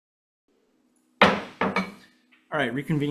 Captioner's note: hammering gavel